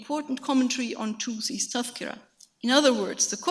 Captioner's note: speaks in a foreign language